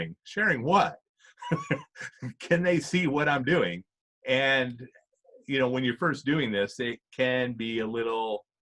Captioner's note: chuckles